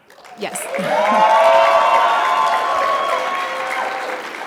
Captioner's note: audience cheering